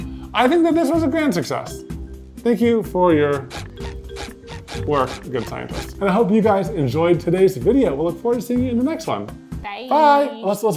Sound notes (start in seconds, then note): 3.3 high-pitched squeaking